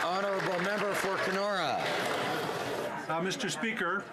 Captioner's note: some Applause